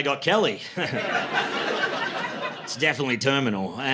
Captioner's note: laughter